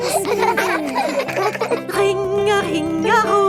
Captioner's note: giggling